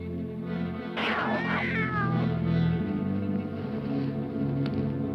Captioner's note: cat meows